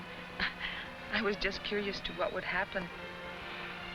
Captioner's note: chuckles